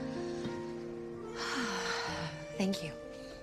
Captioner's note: sighs